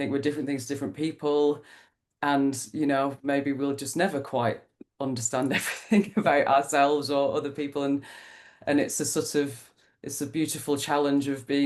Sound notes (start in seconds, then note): 5.5 laughs